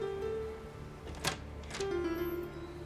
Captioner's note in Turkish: Kapı açılma sesi